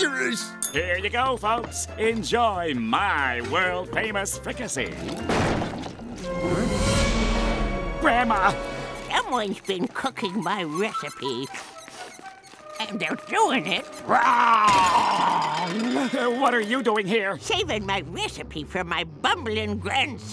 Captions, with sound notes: Here you go, folks. Enjoy my world famous Fricassee. [door thudding] Grandma?! Someone's been cooking my recipe, [sniffing] and they're doing it wrong! What are you doing here? Saving my recipe from my bumbling grandson.